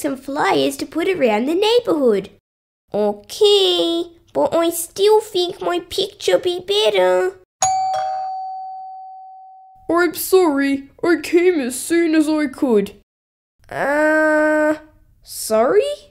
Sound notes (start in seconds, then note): 7.6 doorbell